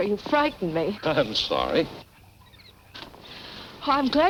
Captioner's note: chuckles